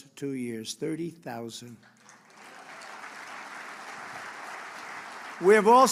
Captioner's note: applause